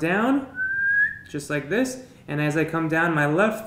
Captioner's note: whistles